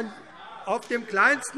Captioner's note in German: Zurufe: Ah!